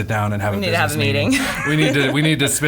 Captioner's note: laughs